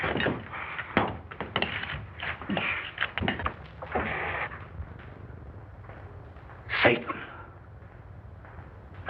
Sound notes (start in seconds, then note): 3.8 cat Hissing; 6.6 whispering